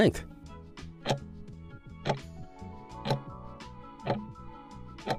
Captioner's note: timer ticking